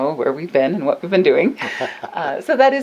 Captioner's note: laughs